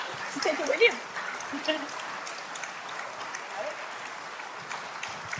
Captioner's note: laughs